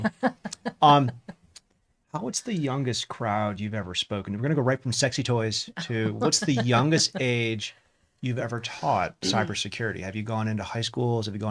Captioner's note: laughs